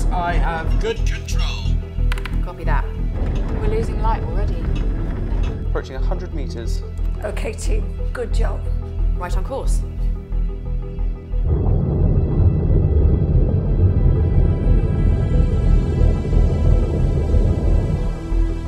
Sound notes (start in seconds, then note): 10.6 soft suspenseful music; 13.1 submersible droning